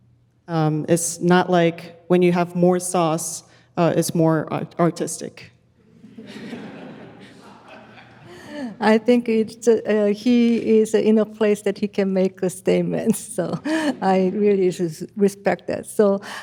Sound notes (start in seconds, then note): 5.9 audience laughs; 13.5 chuckles